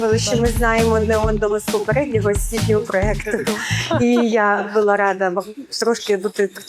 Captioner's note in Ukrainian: сміх